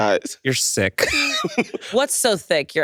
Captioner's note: laughs